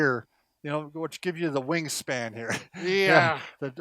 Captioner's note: laughing